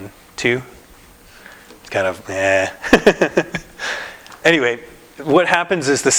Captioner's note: laughter